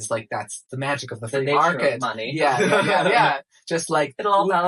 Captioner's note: laughs